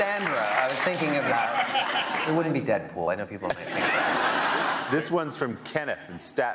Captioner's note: cheers and applause